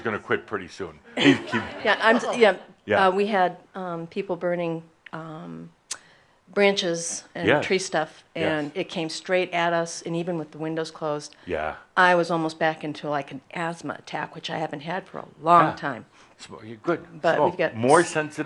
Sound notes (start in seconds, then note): 1.1 more chuckles